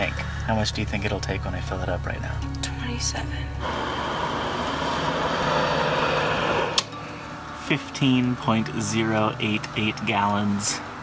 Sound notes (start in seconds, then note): 3.0 sleepily; 3.6 gas flowing; 6.7 gas pump clicks